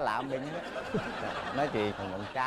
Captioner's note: laughing